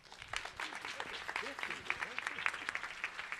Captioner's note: applause